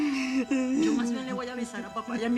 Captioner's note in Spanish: Sollozos